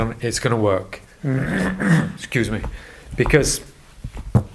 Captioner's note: coughs